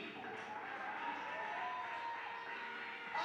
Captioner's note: cheers